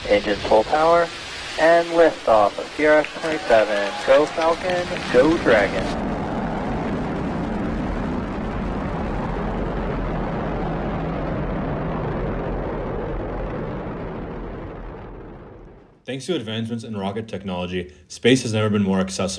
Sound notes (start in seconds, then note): 7.4 rocket engine roaring